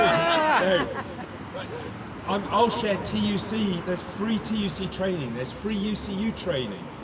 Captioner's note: laughter